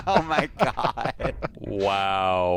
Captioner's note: laughter